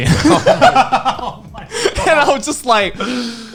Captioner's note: laughing